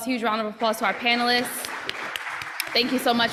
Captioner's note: applause